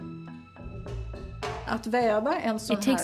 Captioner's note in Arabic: الصوت المنطوق باللغة الأجنبية